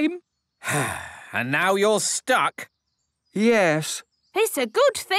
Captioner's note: sigh